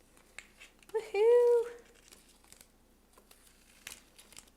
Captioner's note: crinkling